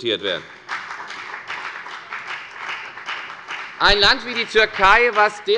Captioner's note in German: Beifall bei der FDP